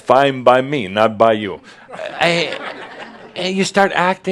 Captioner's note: more chuckles